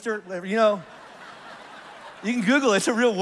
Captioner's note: congregation laughs